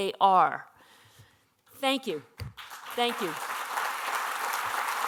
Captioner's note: applause